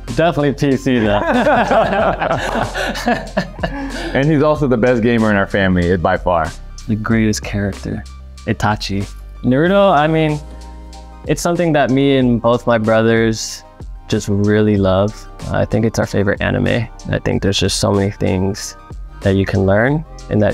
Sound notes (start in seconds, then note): 0.9 Jeremy and Joe laughing; 2.4 Jeremy claps